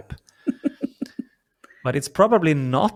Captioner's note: laughs